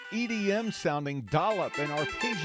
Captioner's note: sound of iPhone ringtone